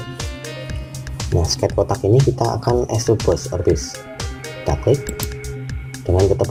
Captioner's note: click